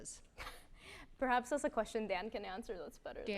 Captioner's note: chuckles